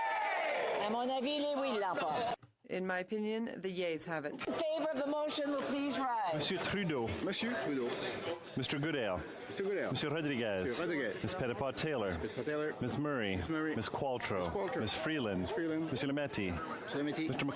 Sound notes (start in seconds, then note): 5.0 speaking in French